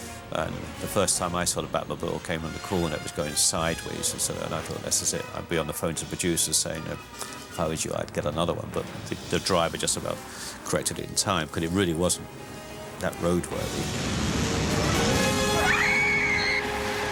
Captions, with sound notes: Uh, the first time I saw the Batmobile, it came around the corner. It was going sideways. Then I thought this is it. I'll be on the phone to the producers saying: “If I was you, I'd get another one. But the driver just about corrected it in time. Because it really wasn't that roadworthy. [SCREAMS]